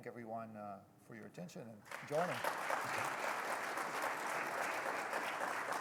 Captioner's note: audience applauding